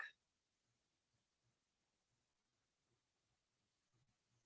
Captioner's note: silence